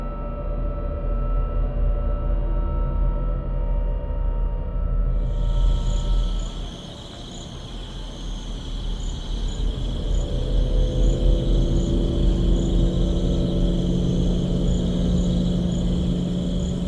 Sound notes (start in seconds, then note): 6.6 crickets; 10.5 ominous music